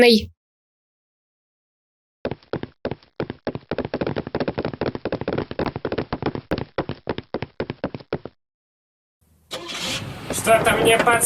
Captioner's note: steps